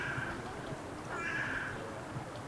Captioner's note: bird calls